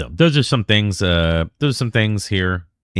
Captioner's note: uh